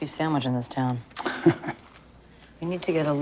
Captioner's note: chuckles